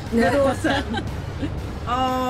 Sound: laughs

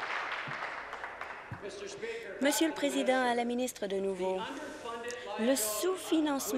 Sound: applause

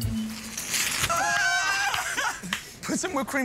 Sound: laughter

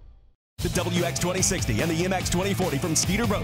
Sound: voiceover

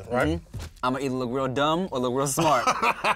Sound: laughs

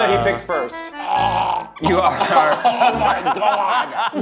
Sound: hurling

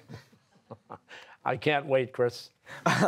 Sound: laughing; laughter

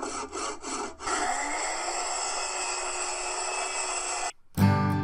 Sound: drill sound; saw sound

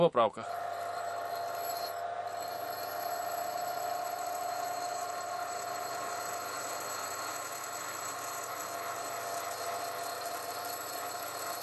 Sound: the sound of the sanding machine is heard

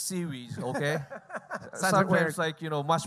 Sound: laughing

